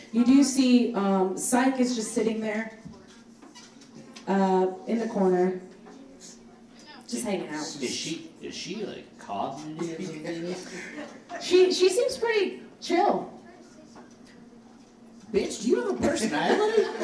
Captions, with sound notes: you do see Psyche is just sitting there, in the corner, just hanging out. - Is she like, cognitive? (crowd laughs) - She seems pretty chill. - Bitch, do you have a personality?